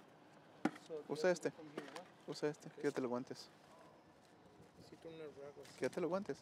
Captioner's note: speaks in foreign language